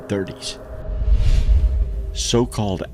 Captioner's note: air whooshing